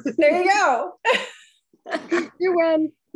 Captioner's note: laughing